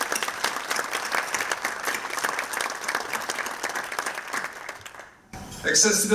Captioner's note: applause